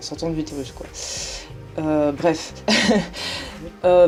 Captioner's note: laughs